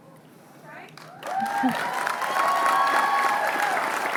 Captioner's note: cheering